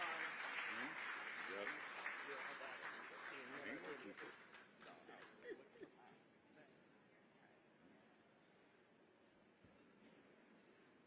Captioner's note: applause